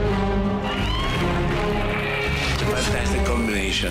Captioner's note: epic music playing; audience cheering